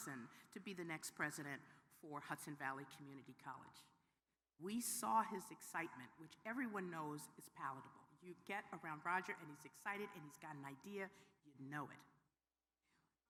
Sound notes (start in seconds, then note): none